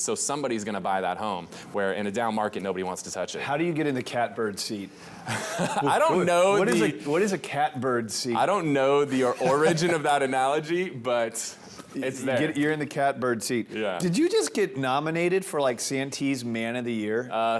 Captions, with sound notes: so somebody is gonna buy that home, where in a down market, nobody wants to touch it. - How do you get in the catbird seat? - (Laughs) I don't know. - What is a catbird seat? - I don't know the origin of that analogy, but it's there. - You're in the catbird seat. Did you just get nominated for like Santee's Man of the Year?